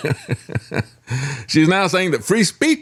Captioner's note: laughs